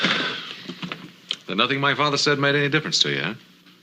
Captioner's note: sighs